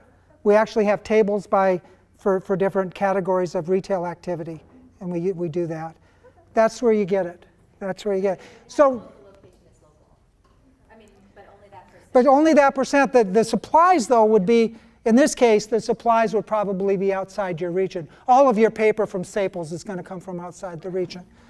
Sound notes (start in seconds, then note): 8.9 voiceover